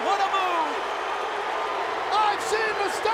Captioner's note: crowd Cheering